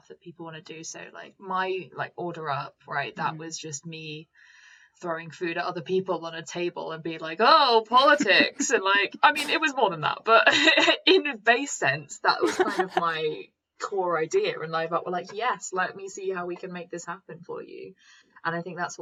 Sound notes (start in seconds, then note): 12.4 giggles